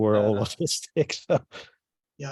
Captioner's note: laughs